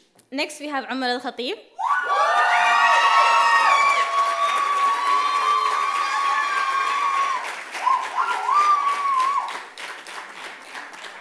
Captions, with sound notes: Next we have Ahmald Ahbeed (loud cheers) (clapping)